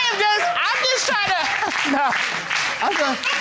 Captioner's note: chuckles